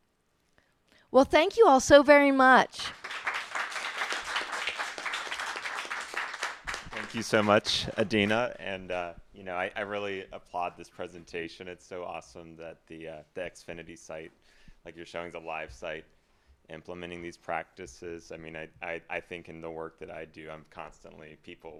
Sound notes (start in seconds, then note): 2.8 applause